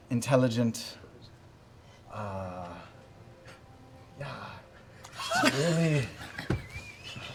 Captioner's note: laughter